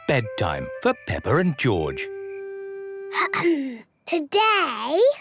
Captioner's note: clears throat